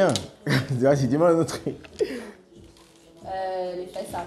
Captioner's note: laughs